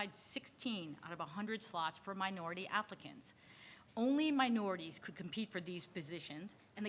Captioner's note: none